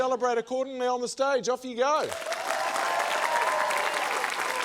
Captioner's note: cheering, applause